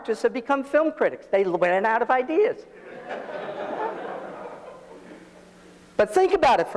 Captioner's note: audience laughs